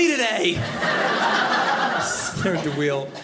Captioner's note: audience laughing